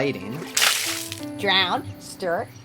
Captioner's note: water spattering